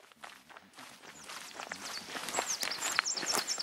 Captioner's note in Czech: Zvuky kroků